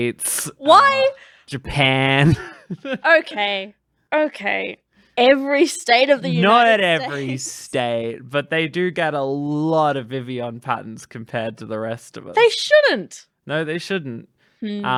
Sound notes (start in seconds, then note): 2.1 laughs